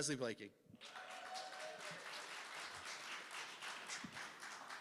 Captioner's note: cheering